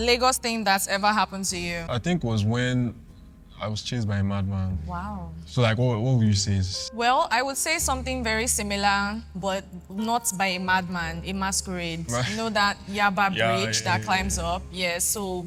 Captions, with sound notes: Lagos thing that's ever happened to you? I think it was when I was chased by a madman. Wow. So, like, what, what would you say is- Well, I would say something very similar, but not by a madman. A masquerade. [laughs] Right. You know that Yaba bridge- Yeah, yeah, yeah ... that climbs up? Yeah, so